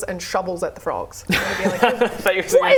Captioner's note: laughs